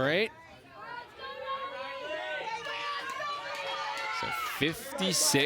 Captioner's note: crowd members yelling